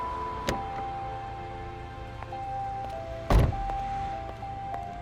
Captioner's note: door clattering; footsteps plodding